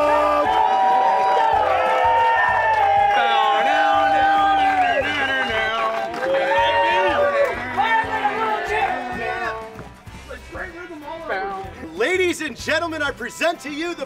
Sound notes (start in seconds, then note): 0.0 applause; 3.3 screaming